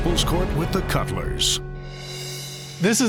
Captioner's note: none